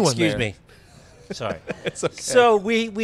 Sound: laughs

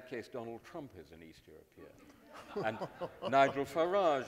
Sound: audience laughing

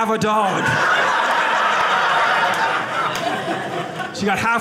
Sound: audience laughing

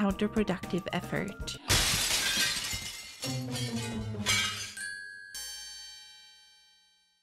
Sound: glass shattering noise

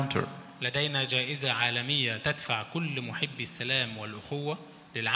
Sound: speaks in foreign language

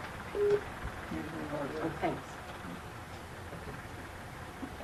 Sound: people chattering faintly

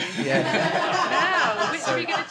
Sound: laughter

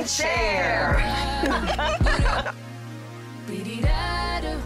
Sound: laughing

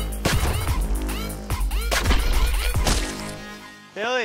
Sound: dramatic electronic music; paint ball splatters

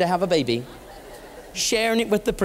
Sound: laughter

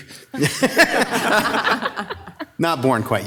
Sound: all laughing

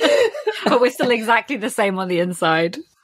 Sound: laughing; laughs

